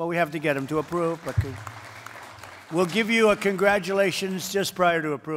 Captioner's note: applause